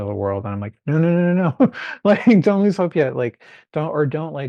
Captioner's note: chuckling